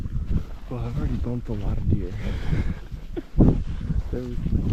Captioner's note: chuckles